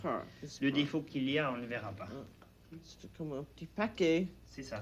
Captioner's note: both conversing in French